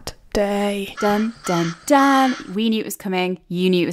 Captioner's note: crows cawing